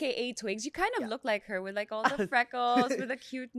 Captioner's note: laughs